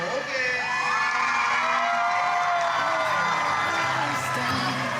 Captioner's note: everyone cheering